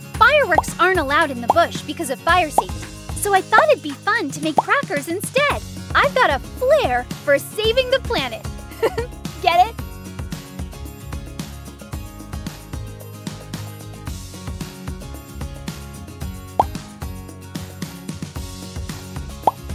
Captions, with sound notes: Fireworks aren't allowed in the bush because of fire safety, so I thought it'd be fun to make crackers instead. I've got a "flare" for saving the planet. (laughs) Get it? (upbeat music)